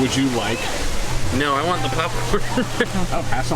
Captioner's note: laughs